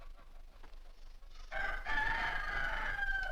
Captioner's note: rooster Crows